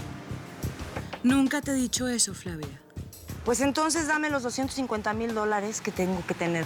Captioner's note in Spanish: none